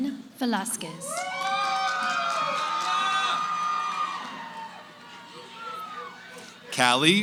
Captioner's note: cheering